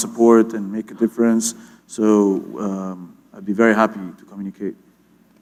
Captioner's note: none